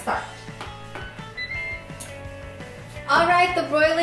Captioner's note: beep